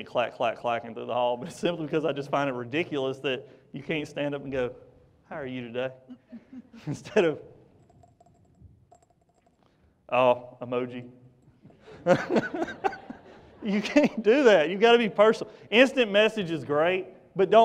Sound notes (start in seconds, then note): 8.8 fingers tapping; 11.8 laughter